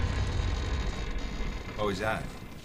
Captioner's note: building groans